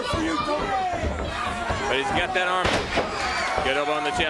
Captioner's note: crowd chatter